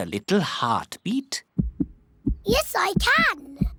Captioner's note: heart thumps